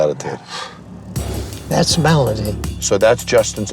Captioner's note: exhales